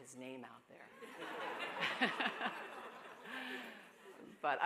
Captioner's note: laughter